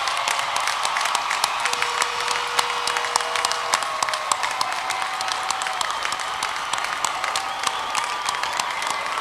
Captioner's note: loud cheering, applause, horns blowing